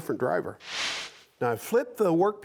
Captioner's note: air whooshes